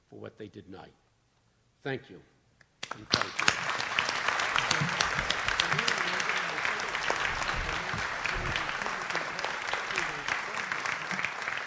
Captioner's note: audience applauds